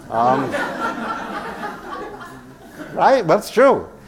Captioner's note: laugh